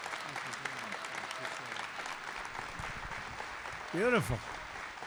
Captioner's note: applause